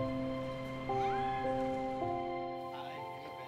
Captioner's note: passerby squealing